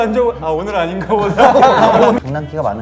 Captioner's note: laughing